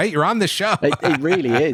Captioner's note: laughs